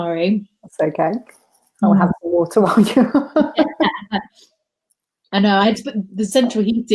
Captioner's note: laughs